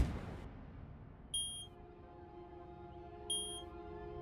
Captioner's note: beeping